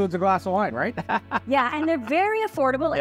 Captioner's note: laughs